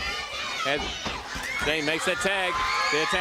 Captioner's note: crowd chatter